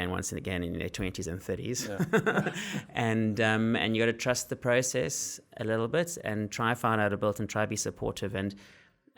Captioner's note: laugh